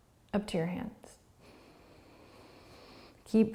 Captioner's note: breathing